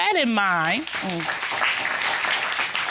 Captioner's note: audience applauding